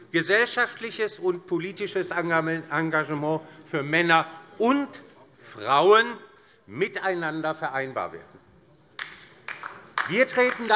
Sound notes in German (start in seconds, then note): 9.0 Beifall DIE LINKE